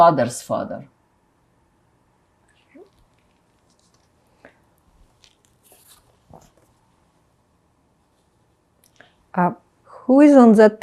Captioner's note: pauses 8 seconds